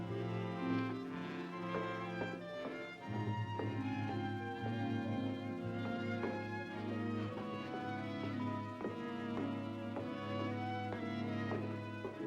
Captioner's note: Johnny's footsteps down stairs; ominous music